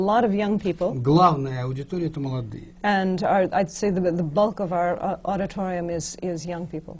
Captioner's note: foreign language not transcribed